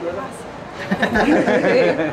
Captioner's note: laughter